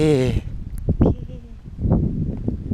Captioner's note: Eric Cartman voice